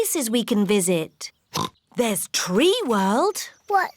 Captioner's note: oinks